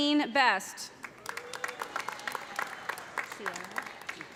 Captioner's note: cheers and applause